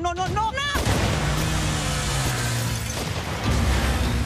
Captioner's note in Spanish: Disparos